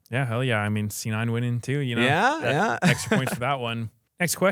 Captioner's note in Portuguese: risos